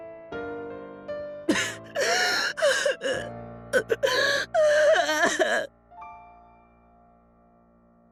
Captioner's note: sobbing